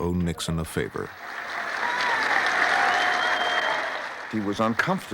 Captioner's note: cheers and applause